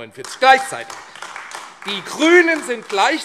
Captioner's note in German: Beifall AfD